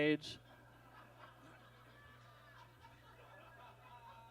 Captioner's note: audience laughs